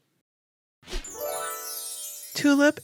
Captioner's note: ells dinging